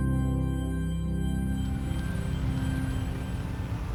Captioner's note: vehicles approaching; suspenseful music